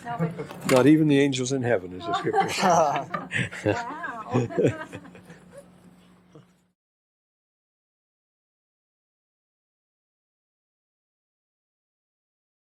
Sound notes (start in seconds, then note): 2.1 laughter